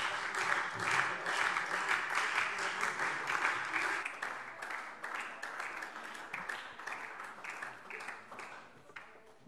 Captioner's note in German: Beifall SPD und vereinzelt Freie Demokraten